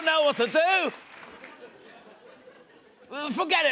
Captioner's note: laughter